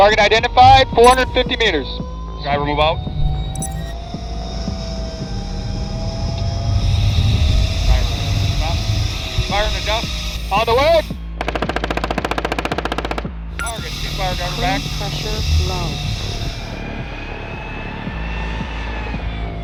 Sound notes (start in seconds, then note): 3.8 dramatic music continues; 3.8 tank revs; 11.7 gun shoots; 15.5 tank revs